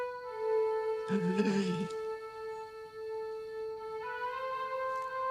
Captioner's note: Thor gasps; solemn music continues